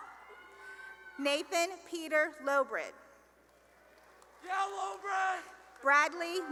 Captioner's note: cheering; cheering and applause